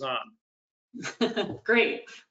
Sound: laughs

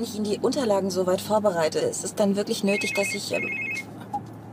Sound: phone rings

